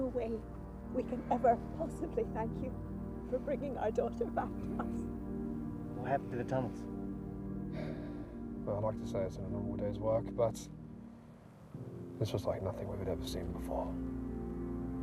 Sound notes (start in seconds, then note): 7.6 sighs